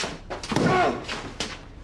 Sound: groans

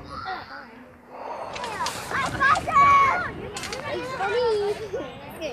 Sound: children shouting

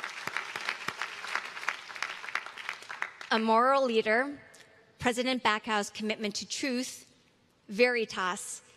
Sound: applause

